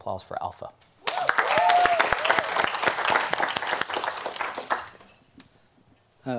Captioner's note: audience clapping an cheering